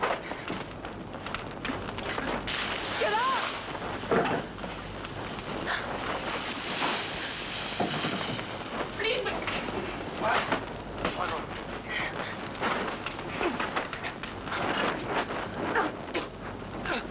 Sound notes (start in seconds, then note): 0.1 flames crackling; 2.5 flames hiss; 4.1 pan clangs down; 6.2 flames hiss; 10.3 Rochester mumbles; 12.2 flames crackle; 15.6 coughing; 16.9 flames crackle